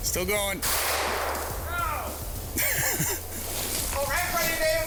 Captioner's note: gunshots ring out